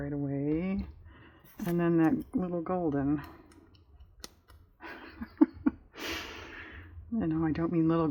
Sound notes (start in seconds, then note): 4.9 laughs